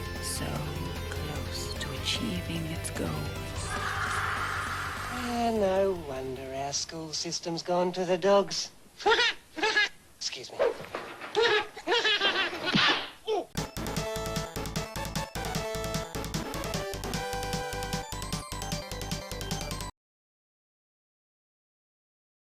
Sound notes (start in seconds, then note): 3.7 sinister laughter; 11.3 cat laughter; 12.7 smack